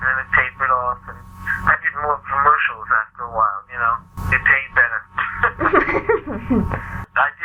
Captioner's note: laughs